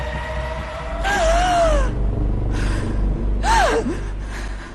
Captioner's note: gasping